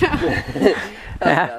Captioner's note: laughter